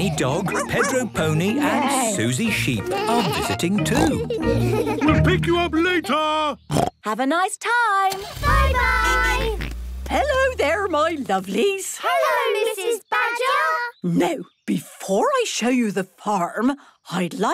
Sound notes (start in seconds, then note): 6.7 snorts